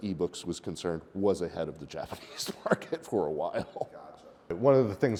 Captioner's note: chuckles